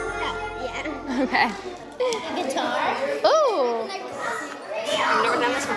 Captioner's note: children talking